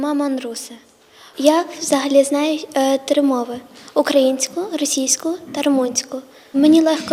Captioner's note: <i>Ukrainian</i>